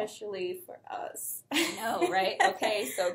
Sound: chuckles

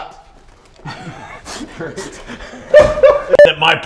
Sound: laughs

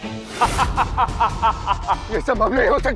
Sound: laughter

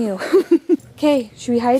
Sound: laughing

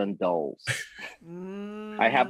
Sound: giggling

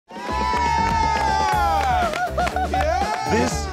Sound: crowd cheering; upbeat music

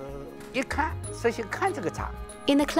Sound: speaking Chinese

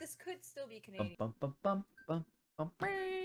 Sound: humming

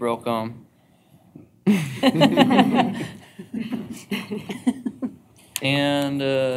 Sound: laughter

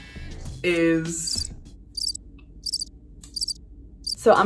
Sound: crickets chirping

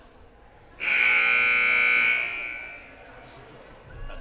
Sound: loud buzzer blaring

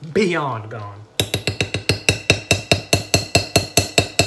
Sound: spoon clanking

